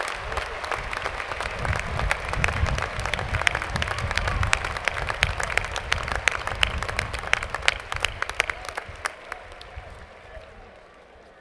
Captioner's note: applause